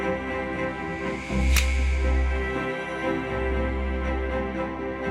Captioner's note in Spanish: golpecitos de palo de golf